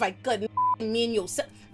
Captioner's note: beep